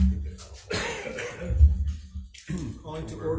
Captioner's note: gavel bangs; coughs